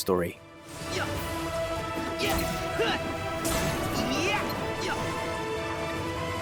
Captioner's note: battle grunts